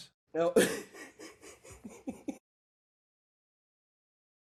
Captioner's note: laughing